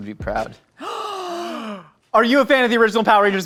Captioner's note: gasping